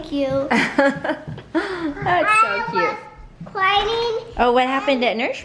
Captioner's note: laughs